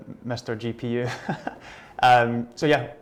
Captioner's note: chuckles